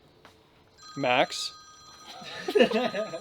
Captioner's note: phone ringing; group laughing